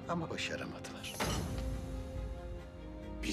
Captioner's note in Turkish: Vurma sesi